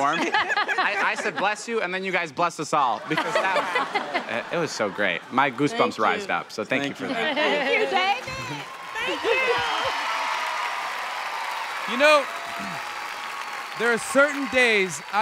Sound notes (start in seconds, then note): 0.0 laughter; 3.0 laughter; 9.6 crowd cheering